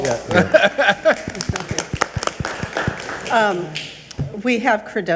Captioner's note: group clapping; laughing